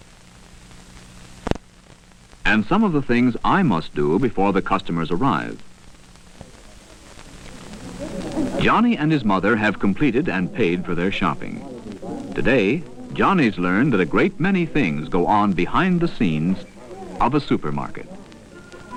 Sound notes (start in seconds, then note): 3.6 people chattering